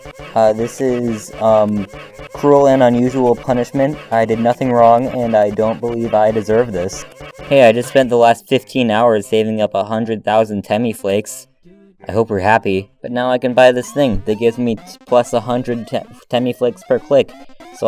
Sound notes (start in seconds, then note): 12.7 sarcasm